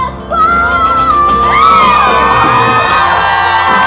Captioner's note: audience cheers